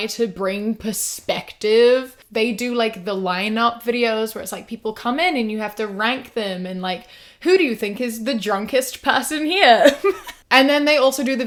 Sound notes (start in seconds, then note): 9.8 laughs